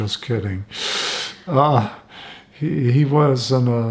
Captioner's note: laughing